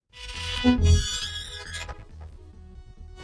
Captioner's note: lid creaks